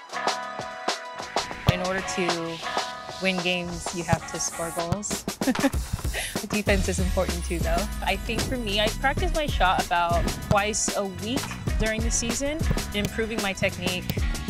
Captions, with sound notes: - In order to win games, you have to score goals. (laughs) The defense is important too, though. I think for me, I practice my shot about twice a week during the season, improving my technique,